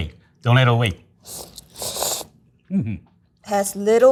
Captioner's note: chefs slurping